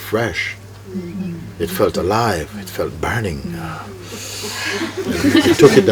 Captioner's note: laughter